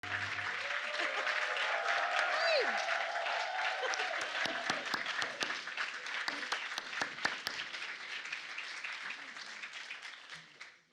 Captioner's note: applause